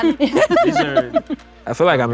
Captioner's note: all laugh